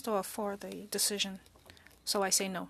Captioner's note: speaking French